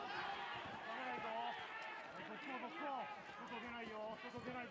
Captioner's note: cheers